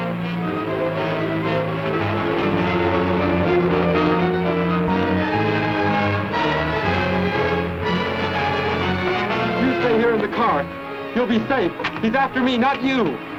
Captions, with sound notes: [ DRAMATIC MUSIC ] [ CAR RUMBLING ] You stay here in the car. You'll be safe. He's after me, not you